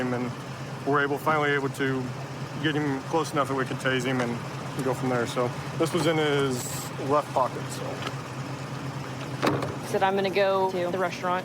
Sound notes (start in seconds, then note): none